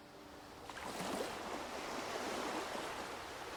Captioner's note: water lapping